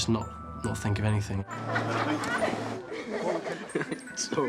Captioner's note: laughing